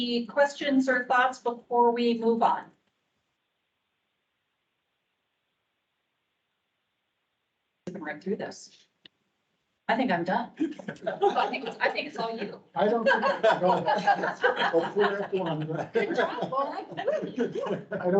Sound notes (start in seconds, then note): 10.6 all laughing; 12.9 indistinct chatter